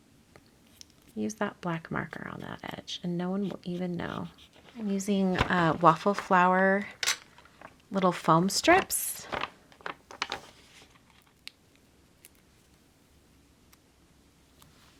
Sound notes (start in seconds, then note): 4.0 marker scraping; 10.0 paper crinkling